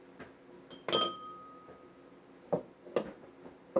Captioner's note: glass clinking